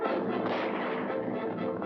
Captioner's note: dramatic music; gunshot; hooves pounding